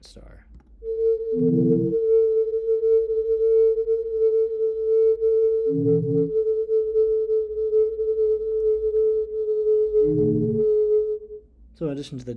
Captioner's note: star humming